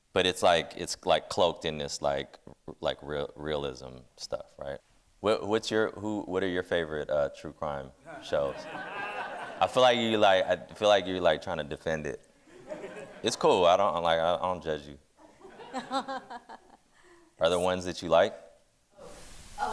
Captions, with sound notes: but it's cloaked in this realism stuff, right? What are your favorite true crime shows? (audience laughing) I feel like you're trying to defend it. It's cool. I don't judge you. Are there ones that you like?